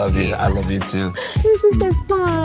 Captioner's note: Alycia squeals